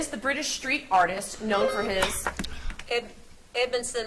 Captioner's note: buzzer beeps